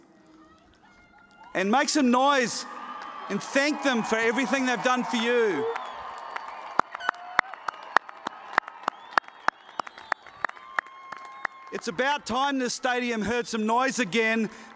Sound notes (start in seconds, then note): 4.7 cheers and applause